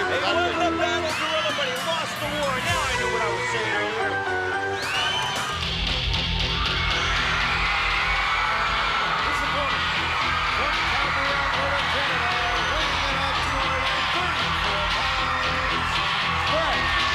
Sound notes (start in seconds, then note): 5.1 audience cheering; 5.1 rock music